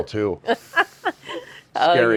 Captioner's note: chuckling